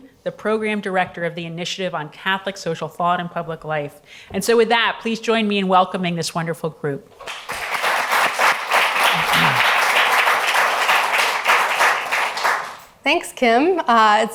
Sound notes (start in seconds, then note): 7.2 audience applauds